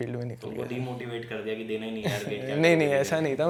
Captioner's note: laugh